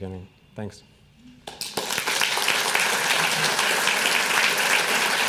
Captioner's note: clapping